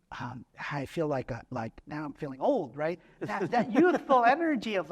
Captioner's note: laughter